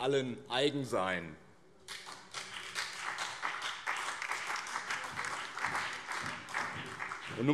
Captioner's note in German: Beifall BÜNDNIS 90/DIE GRÜNEN